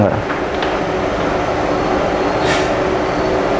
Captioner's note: PET film sound